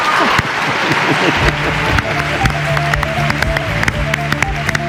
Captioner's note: applause